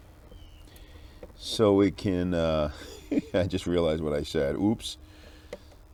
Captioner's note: laughing